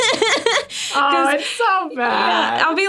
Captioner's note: everyone laughs